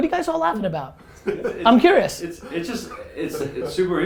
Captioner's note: group laughter